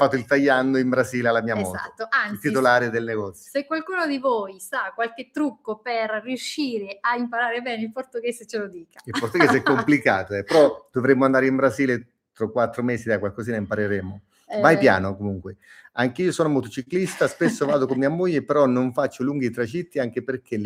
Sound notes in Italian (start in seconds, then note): 9.0 risate